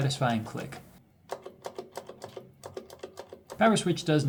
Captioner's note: Cherry MX keyswitches sing beautifully